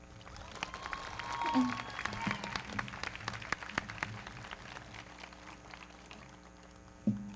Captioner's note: everybody clapping; audience cheering